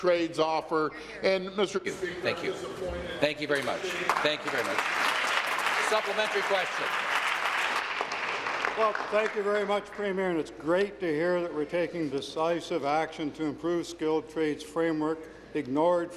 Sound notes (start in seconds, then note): 9.0 applause